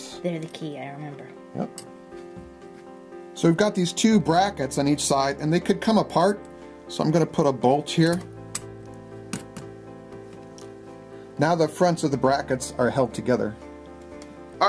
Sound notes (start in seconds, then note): 8.7 metal scraping